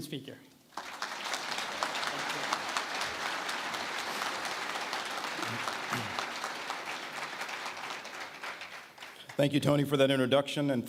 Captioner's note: applause